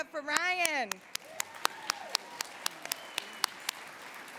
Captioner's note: cheering and applause